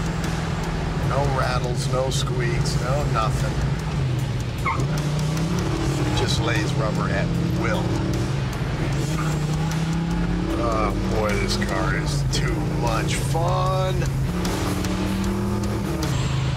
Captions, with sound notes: No rattles, no squeaks, no nothing. [vehicle squeaks] It just lays rubber at will. Aw, boy, this car is too much fun.